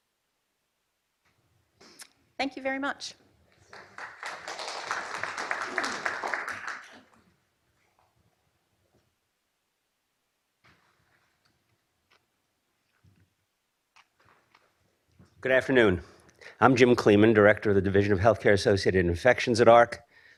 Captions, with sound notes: Thank you very much. (applause) - Good afternoon, I'm Jim Cleeman, Director of the Division of Healthcare-Associated Infections at AHRQ,